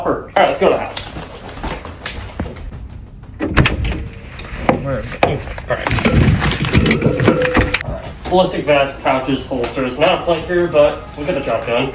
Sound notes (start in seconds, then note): 6.1 gear shuffling